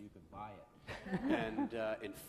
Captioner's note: laughs